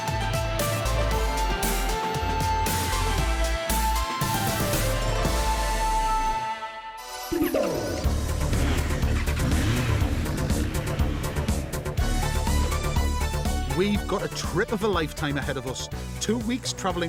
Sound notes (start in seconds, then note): 9.4 revving; 11.9 japanese music playing